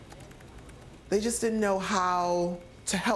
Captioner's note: typing on keyboard